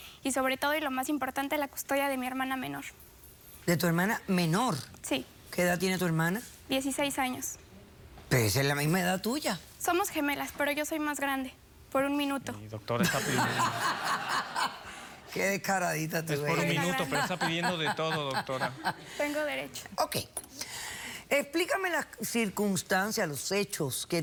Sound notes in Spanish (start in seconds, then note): 13.0 risas